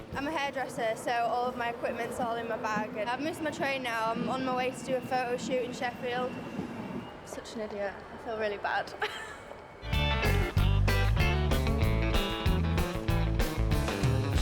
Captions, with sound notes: - I'm a hairdresser so all of my equipment's all in my bag. I missed my train now. I'm on my way to do a photo shoot in Sheffield. I'm such an idiot. I feel really bad. (laughs) (upbeat country music continues)